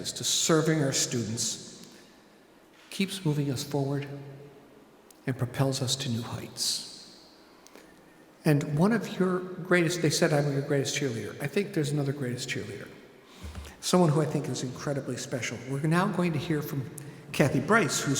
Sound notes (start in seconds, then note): none